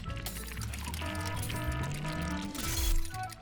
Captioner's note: glass breaking; alarm blaring; electricity crackling